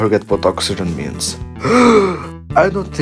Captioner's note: deep inhale